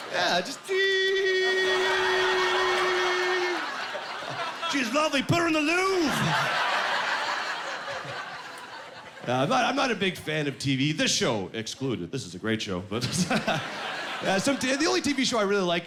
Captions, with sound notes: Yeah, just-- "Teehee..." "She's lovely! Put her in the Louvre!" (Laughing) I'm not a big fan of TV-- this show excluded; this is a great show. The only TV show I really like